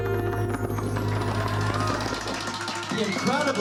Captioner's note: cheering and applause